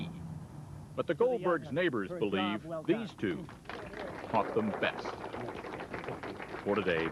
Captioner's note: clapping